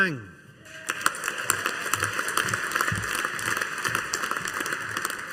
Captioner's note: audience applauding